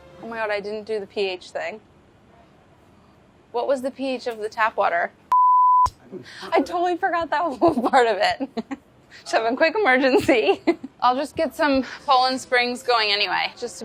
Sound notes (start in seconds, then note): 7.6 laughs